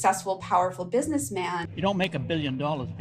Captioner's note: soundbite of archived recording